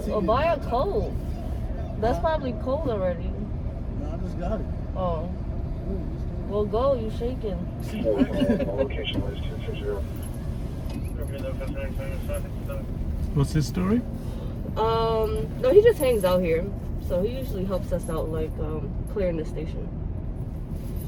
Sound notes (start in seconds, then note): 7.9 laughing; 10.4 voices on police radio